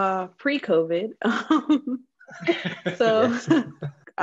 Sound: laughter

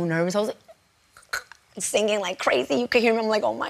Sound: choking

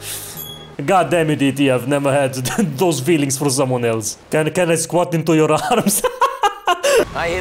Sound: laughs

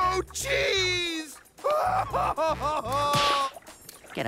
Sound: crying

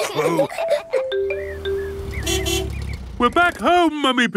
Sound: laughs; horn honking

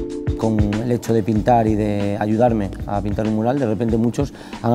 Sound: soft, upbeat music; speaking Spanish

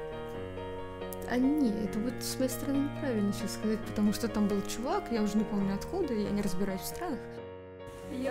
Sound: untranslatable Russian excuses

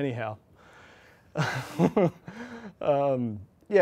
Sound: chuckles

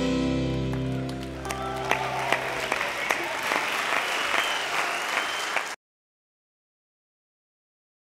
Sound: audience clapping and cheering

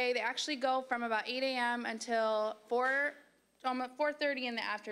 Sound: none

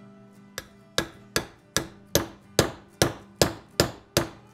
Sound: hammer tapping

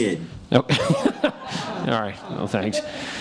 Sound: laughing

